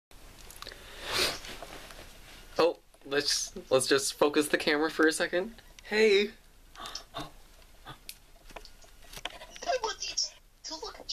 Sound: breathes heavily

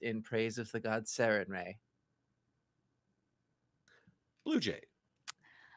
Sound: none

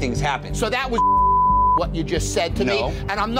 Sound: beep

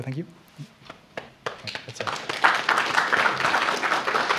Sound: applause

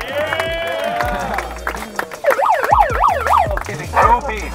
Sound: upbeat exotic music; spectator laughs; siren blares

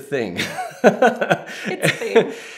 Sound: laughter

